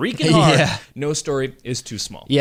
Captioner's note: laughs